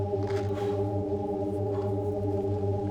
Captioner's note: heavy breathing